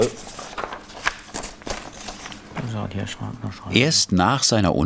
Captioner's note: rustling